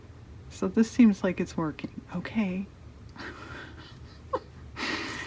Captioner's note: laughs